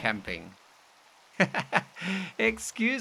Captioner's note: laughing